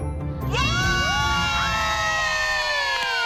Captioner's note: cheering